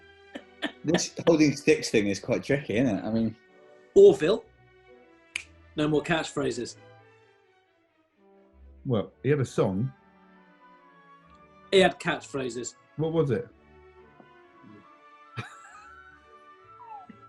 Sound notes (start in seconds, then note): 0.4 laughing; 5.3 clicks finger; 16.7 sniggering